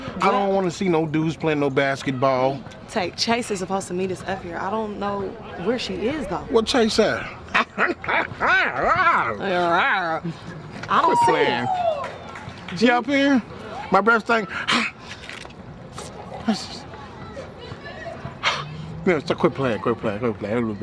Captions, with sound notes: I don't want to see no dudes playin' no basketball. - Tank, Chase is supposed to meet us up here. I don't know where she is though. - Where Chase at? (roaring) - I don't see her. - She up here? My breath stink? (exhaling)